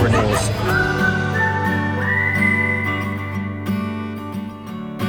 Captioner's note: cheerful whistling